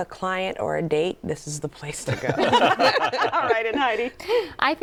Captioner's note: laughter